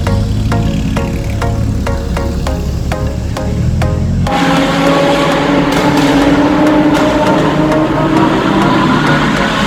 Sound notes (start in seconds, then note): 5.6 pop and bang